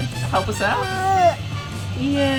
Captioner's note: baby mumbles